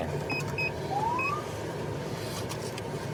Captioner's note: siren chirps